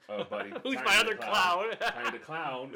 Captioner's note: laughs